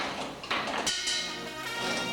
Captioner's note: bell dings; light tense music